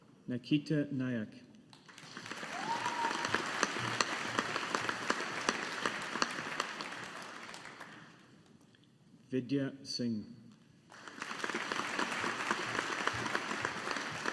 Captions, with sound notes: Nikita Naik. (AUDIENCE APPLAUDING) Vidya Singh. (AUDIENCE APPLAUDING)